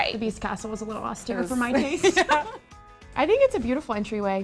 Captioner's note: laughing